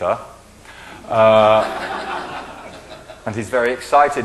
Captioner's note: laughing